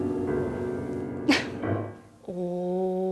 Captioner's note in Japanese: 笑…